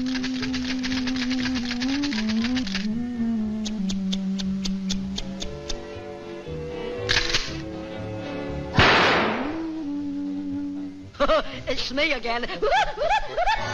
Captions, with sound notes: Tsk-tsk-tsk-tsk-tsk-tsk-tsk *Bang* Haha, It's me again! Hoo-hoo-hoo-hoo-hoo-hoo-h--